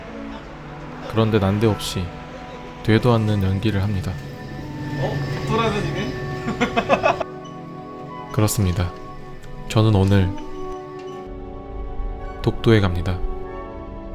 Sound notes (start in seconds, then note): 6.3 both laughs